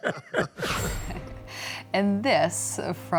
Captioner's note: laughter